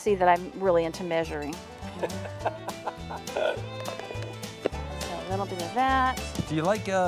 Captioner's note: laughter